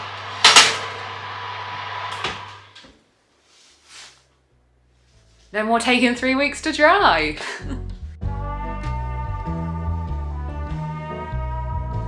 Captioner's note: oven noises